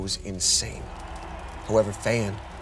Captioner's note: crowd cheers